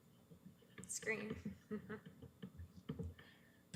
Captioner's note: chuckles